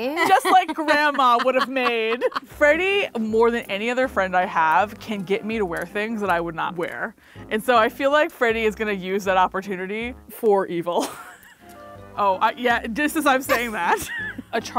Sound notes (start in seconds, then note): 11.3 laughs